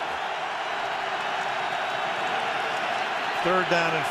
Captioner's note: cheering